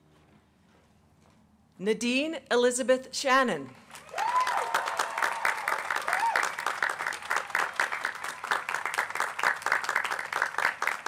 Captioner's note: applause